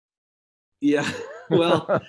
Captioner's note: laughs